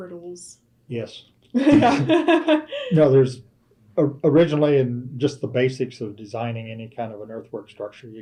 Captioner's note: laughter